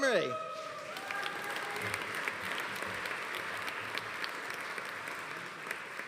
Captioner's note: audience cheering; audience applauding